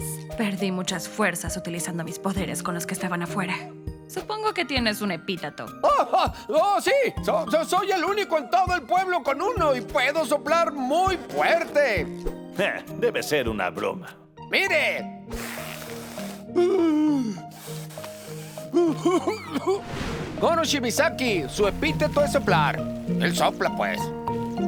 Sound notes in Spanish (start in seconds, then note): 15.2 Soplido patético; 18.4 Sopla como asmático